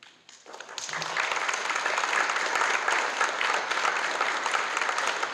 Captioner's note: applause